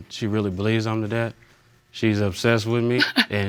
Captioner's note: laughs